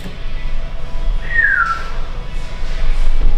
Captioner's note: whistle